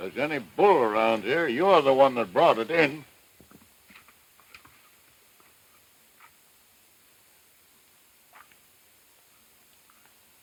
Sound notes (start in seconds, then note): 3.7 horse hooves pounding